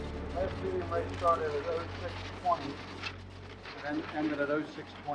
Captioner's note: people chattering